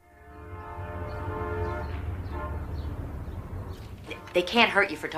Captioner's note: train horn honking